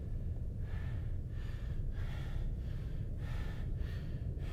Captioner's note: heavy breathing